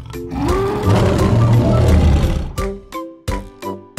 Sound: lion roars

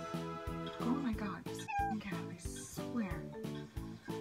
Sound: meow

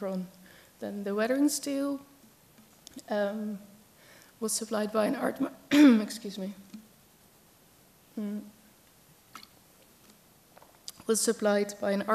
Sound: clears throat

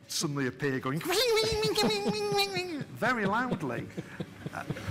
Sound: stormtrooper noises

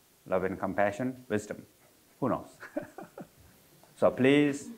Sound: chuckles

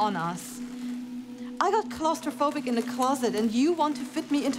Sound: creaking; more creaking

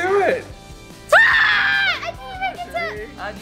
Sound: screaming

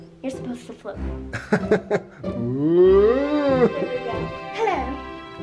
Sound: father laughs

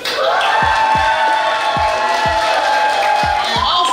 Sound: crowd applauds

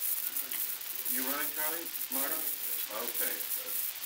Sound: production chatter

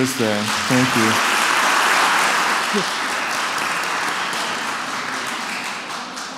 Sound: applause

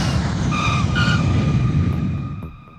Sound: tires screeching

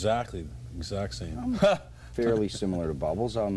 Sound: laughter

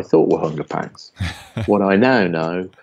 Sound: laughing

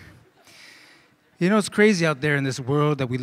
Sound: laughter

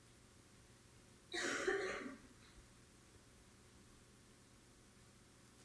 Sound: audience member coughing

